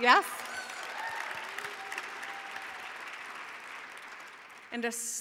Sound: audience clapping

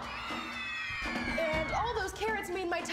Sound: kids scream

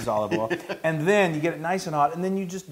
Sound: laugh

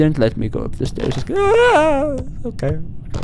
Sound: scared noise

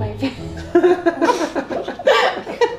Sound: laughing

